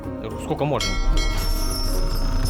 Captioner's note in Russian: Звук корабельного колокола